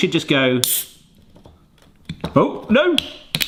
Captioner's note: air releasing